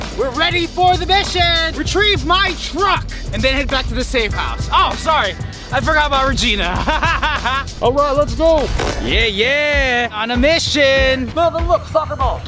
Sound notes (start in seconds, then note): 6.5 laughing